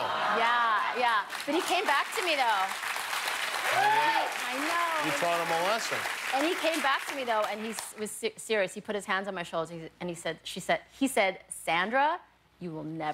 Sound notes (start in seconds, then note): 0.6 applause